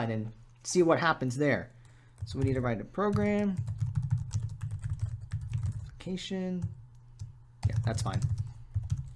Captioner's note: typing